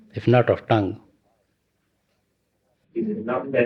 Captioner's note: laughter